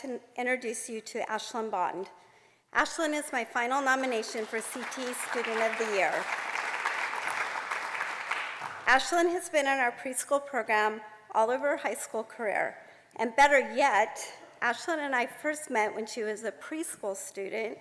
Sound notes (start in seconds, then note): 6.4 applause